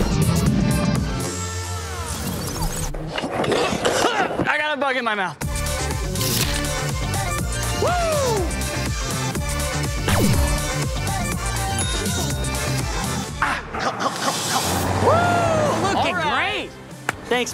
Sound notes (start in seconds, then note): 0.0 spraying noises over fats forwarded music; 3.1 scooter scrapes over concrete; 3.8 cough; 11.6 chime